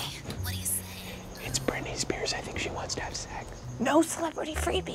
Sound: hushed

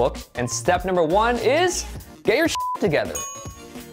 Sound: beep

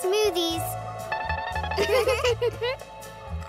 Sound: giggling

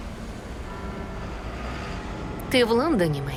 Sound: distant bell tolls

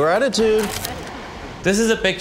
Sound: camera shutter clicks

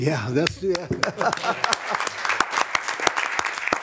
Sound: all clapping

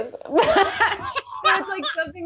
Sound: both laughing

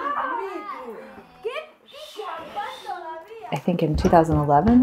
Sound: indistinct chatter and exclamation

